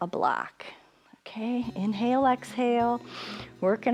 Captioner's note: inhales